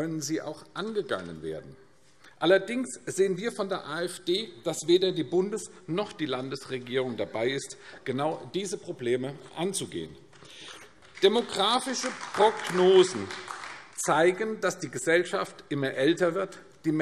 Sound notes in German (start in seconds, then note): 10.4 Beifall AfD